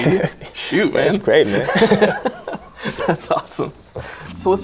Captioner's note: laughing